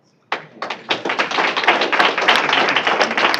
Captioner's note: applause